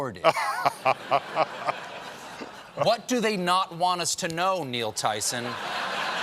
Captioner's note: laughter